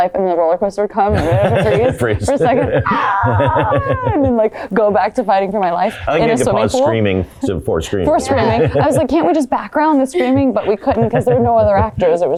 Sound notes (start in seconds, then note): 3.3 Blake screaming